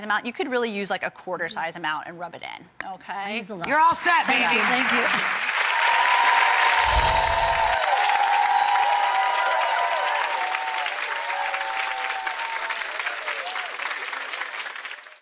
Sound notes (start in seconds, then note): 5.7 cheers and applause; 6.8 ethereal music